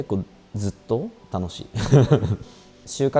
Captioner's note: laughs